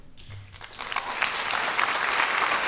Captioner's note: applause